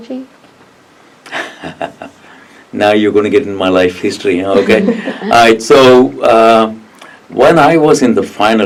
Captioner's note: laughs